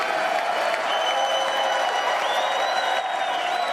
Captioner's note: applause